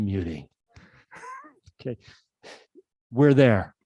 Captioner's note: laughs